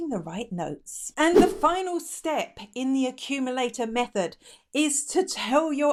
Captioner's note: air whooshing